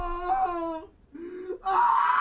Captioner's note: gasps